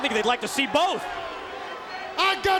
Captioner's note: crowd cheering